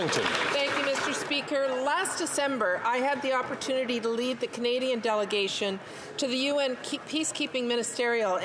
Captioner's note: some Applause